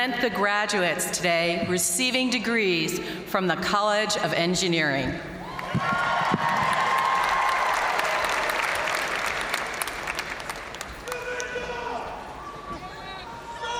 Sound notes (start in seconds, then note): 5.4 audience cheering and applauding